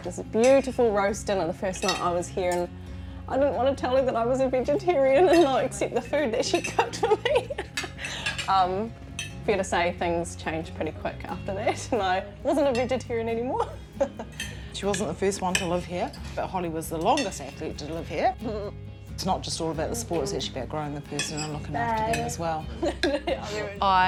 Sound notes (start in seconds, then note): 13.9 laughs; 18.6 chuckles